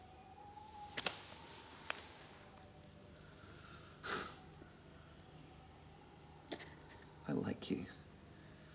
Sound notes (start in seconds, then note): 1.0 wind howling; 4.3 Graham sighs; 6.8 Jodie whimpers